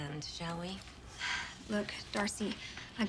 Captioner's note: sighing